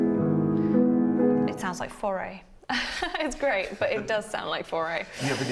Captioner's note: laughs